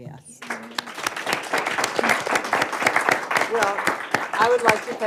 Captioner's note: audience applauds